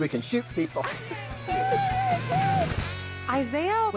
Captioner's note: both laughing